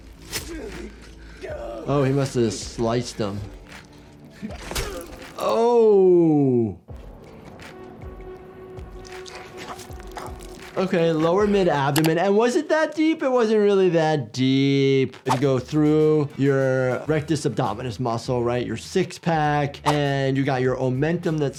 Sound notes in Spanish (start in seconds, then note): 0.1 silbido del cuchillo; 4.5 golpe de cuchillo; 6.9 música rítmica